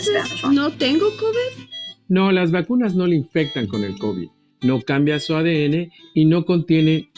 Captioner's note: speaking spanish